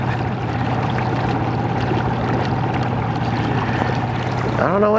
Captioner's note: motor running; water lapping